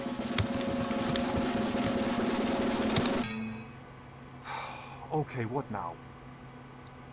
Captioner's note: sigh